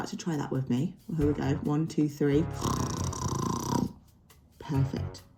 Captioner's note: snort!